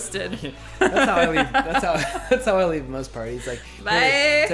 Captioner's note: laughs